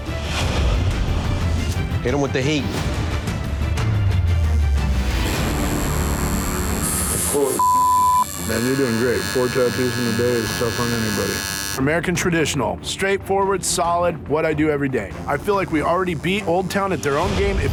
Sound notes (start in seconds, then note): 3.4 needle buzzing; 3.4 suspenseful music